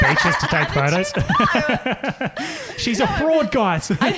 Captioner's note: laughing